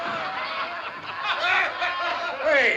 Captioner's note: ALL CLAMORlNG; ALL LAUGHlNG